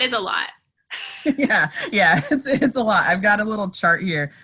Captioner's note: laughs